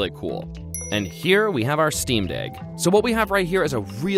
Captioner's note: dings